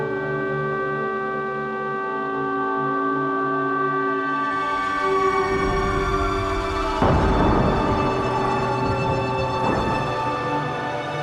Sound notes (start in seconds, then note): 7.1 chair banging